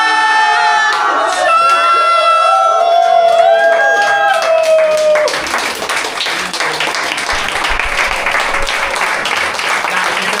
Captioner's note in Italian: applauso